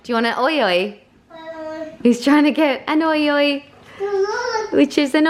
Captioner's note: babbles